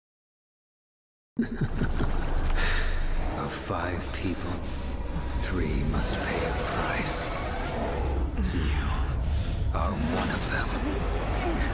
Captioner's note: laughs